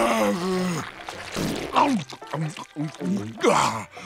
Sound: chomping; groaning

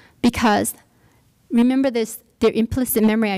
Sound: none

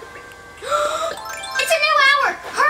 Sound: gasps

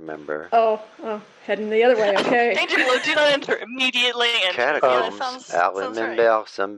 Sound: French accent

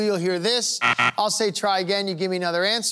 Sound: buzzer sounding

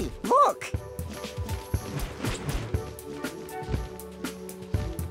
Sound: wings flapping

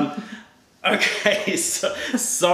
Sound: laughter

